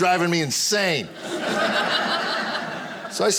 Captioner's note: audience laughing